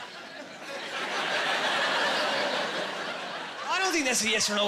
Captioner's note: laughing